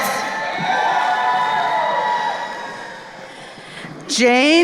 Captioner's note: crowd cheering